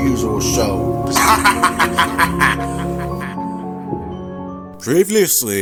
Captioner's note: Riley laughing